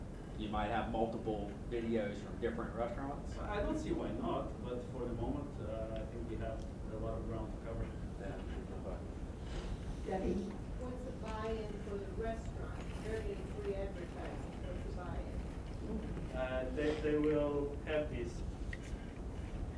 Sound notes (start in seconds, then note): 0.0 voiceover; 11.7 voiceover; 13.8 talking in background